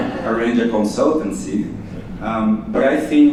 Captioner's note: chuckles